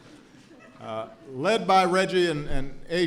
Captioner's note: laughter